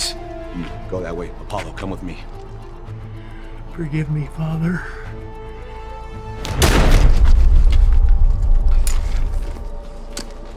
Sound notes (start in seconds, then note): 6.4 gun fires; 7.7 dramatic music